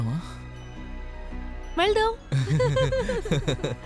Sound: both giggling

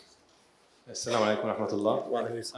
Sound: speaking in foreign language

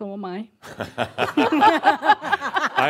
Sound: they laugh

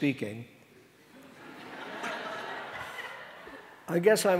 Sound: audience laughing

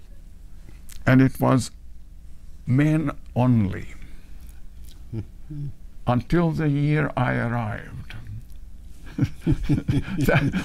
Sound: laughs

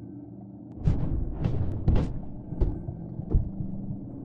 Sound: punches thudding

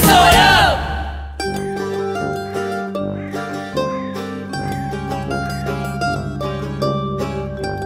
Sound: country music; bird caws

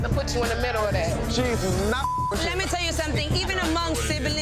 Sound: beep

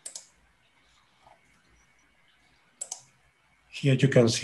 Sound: mouse clicking

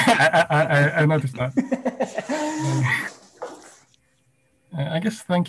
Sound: laughs

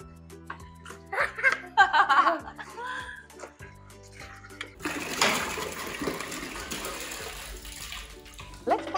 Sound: laughter

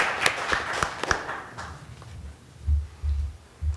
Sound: applause

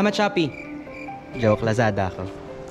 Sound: cricket sounds

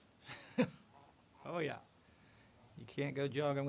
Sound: chuckles

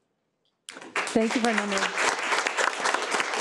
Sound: people clapping

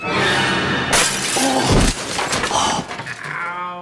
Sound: glass shattering

